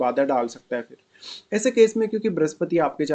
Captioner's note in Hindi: नाक से की जाने वाली आवाज़